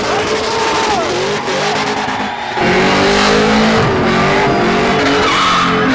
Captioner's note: car engines roaring